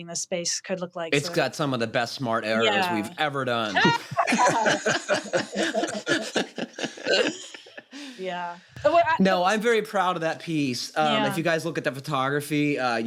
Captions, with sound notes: the space could look like-- It's got some of the best smart arrows we've ever done. [LAUGHTER] Yeah. No, I'm very proud of that piece. If you guys look at the photography,